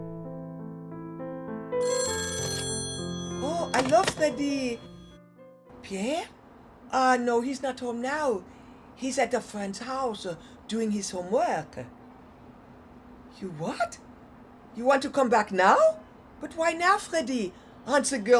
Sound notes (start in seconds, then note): 1.8 phone ringing